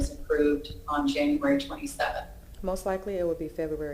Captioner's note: ~distortion~